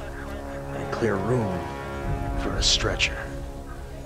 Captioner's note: dramatically